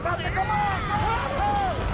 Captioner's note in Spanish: Gritos